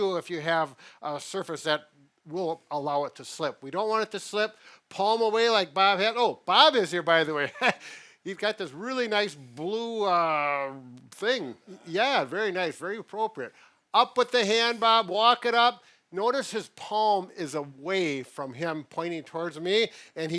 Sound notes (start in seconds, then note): 7.5 laughs